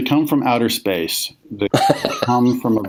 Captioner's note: laughs